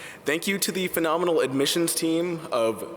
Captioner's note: none